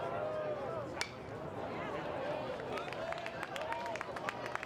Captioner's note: bat taps